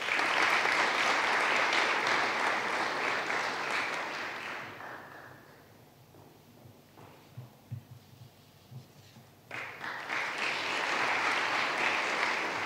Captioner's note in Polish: oklaski